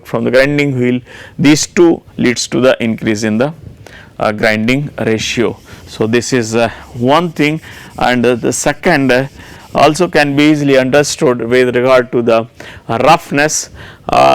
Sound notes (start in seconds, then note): 5.6 grinding wheel